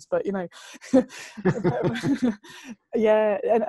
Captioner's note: lacht